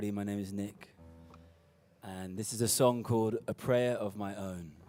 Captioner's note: none